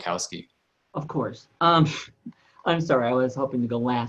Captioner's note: chuckles